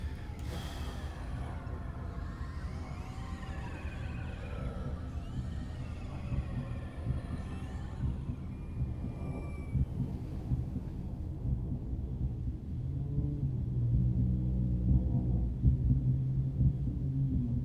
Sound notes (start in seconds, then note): 0.7 eerie music playing; 8.1 heartbeat pounding